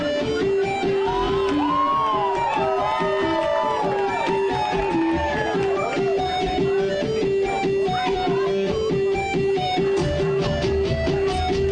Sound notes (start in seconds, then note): 0.0 electric guitar; 0.8 audience cheers